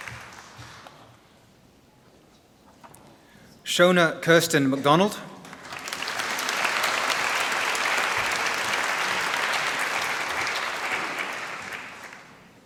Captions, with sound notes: Shona Kirsten McDonald. (Applause)